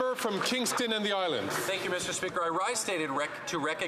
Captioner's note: some Applause